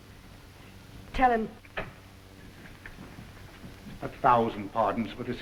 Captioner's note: door opens